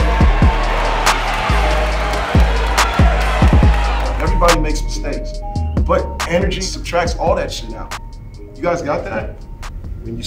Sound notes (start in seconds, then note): 0.0 audience cheering